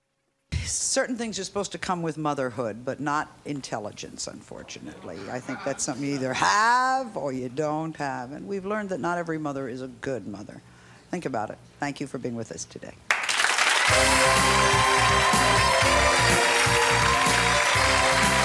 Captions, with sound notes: Certain things are supposed to come with motherhood, but not intelligence, unfortunately. I think that's something you either have or you don't have and we've learned that not every mother is a good mother. Think about it, thank you for being with us today. (clapping) (energetic music)